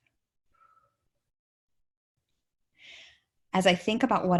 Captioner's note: exhales lightly